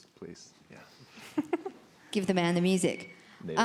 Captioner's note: woman laughs